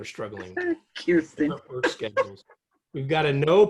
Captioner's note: laughter